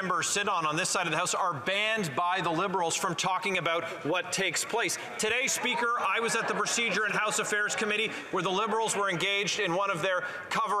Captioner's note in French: voix de l'interprète